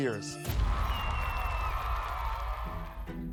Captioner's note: crowd cheering